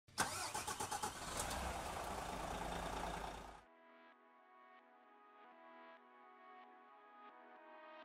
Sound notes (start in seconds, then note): 0.1 car engine starting; 3.6 gentle music